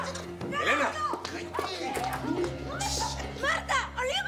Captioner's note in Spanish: gritos